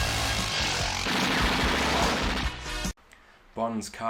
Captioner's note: motorbike engine noise; machine guns firing